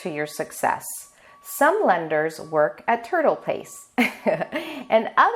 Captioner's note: laughing